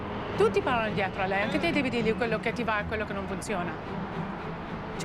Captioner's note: speaking Italian